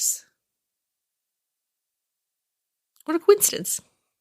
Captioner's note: silence